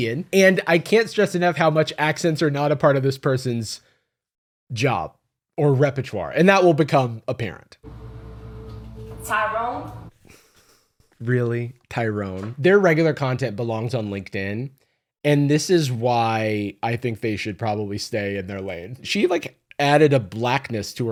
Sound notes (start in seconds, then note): 9.8 sighs